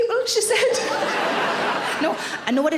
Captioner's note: audience laughing